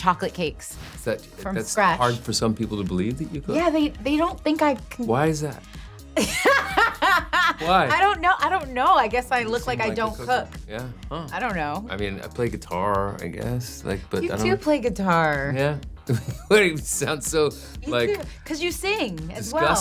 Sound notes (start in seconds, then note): 6.2 laughs; 16.0 laughs